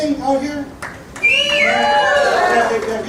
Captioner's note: people cheering